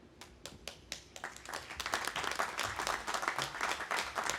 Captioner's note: audience applauding